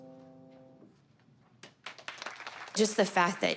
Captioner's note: applause